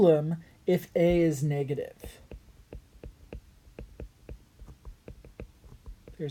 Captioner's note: writing